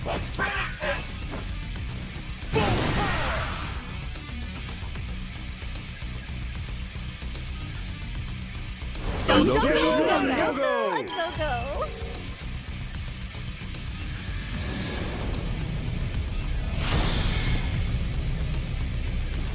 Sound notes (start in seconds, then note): 0.0 upbeat rock music; 9.3 cacophony of voices overlapping